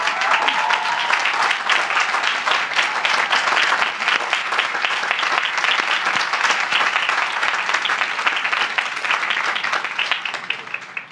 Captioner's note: applause